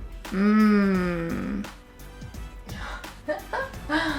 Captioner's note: humming; laughing